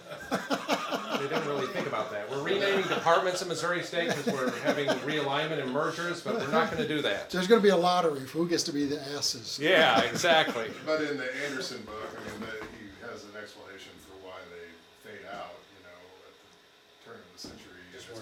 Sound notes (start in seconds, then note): 0.0 attendees laughing; 9.7 attendee laughing